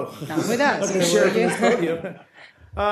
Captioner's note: laughter